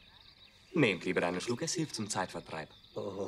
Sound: in German

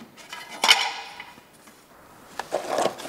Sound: metal clacking

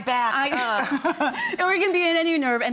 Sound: laughing

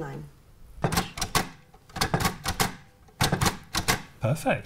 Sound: sound of Perkins braille machine

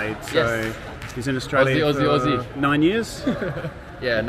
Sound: laughing

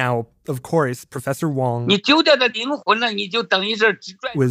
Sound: speaking Mandarin

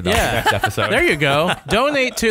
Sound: laughter

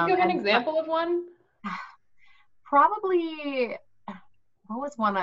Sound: sighs

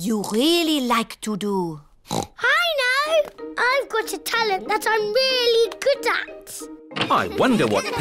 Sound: oinks

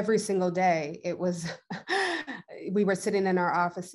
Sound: chuckles

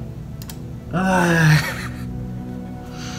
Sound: laughs

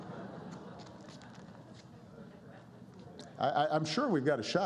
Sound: laughter

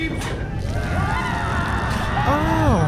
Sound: screaming

